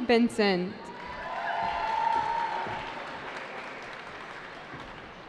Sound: cheering

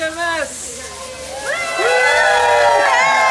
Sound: excited cheers

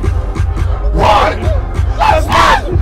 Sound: shrieking

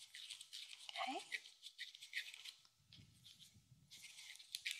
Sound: paper crinkling

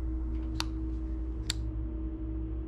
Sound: light switch clicks

